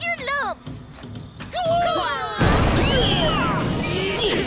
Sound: grunting

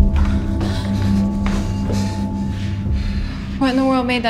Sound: heavy breathing

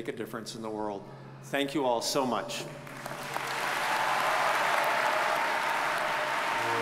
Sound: audience cheers and applauds

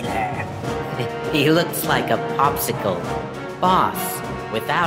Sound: snickering

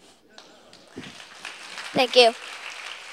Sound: applause

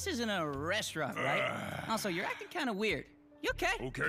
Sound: Drago groans

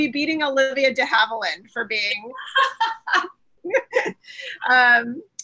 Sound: laughs

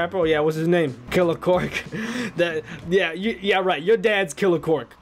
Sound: laughs

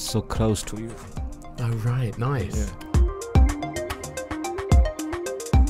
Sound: voiceover

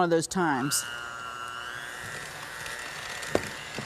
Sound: mixer whirring

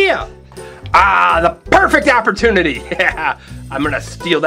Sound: laughs

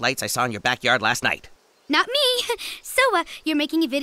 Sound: giggle

